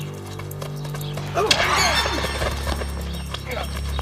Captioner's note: Tommy groaning